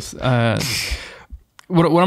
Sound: men chuckling

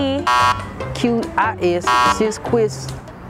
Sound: buzzer beeping; buzzer beeping

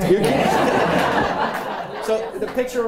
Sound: laughter

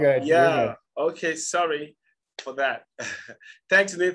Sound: laughs

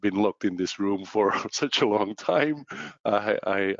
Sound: laughs

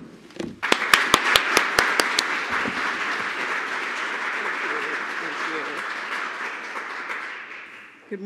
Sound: applause

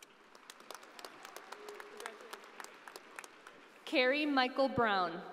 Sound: audience applauding

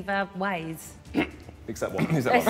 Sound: clears throat

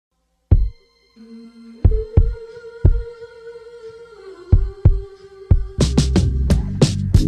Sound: woooooo-oooooo

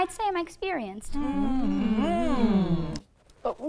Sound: members humming

